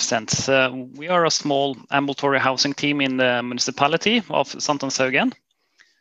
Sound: Norwegian

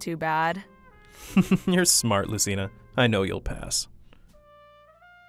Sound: chuckles

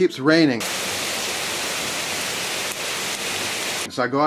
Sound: heavy rainfall

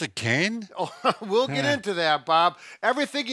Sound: chuckles

